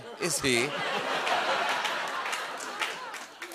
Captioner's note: laughter